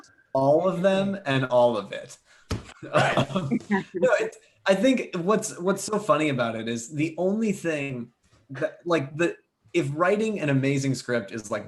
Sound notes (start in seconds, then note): 2.8 laughs